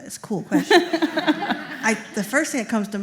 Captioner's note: laughter